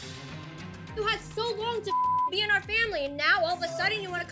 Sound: beep

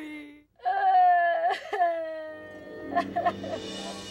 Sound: Veronica cries

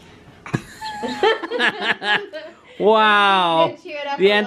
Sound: laughing

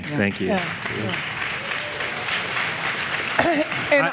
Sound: applause

